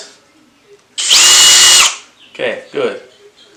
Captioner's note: drill buzzes